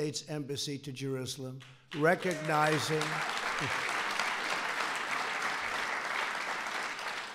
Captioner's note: applause